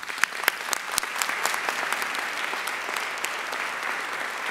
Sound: audience applauding

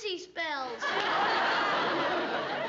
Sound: laughter

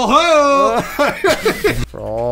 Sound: laughing

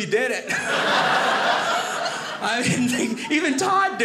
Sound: audience laughing

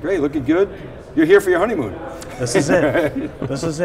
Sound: laughs

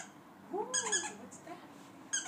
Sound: squeak

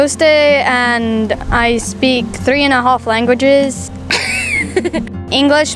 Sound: laughs

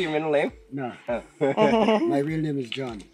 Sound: laughs

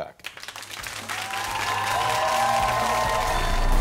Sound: audience applauds

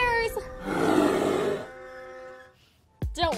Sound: bear growling

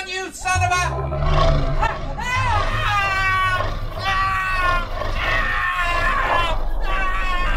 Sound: ghost shark growling; screaming

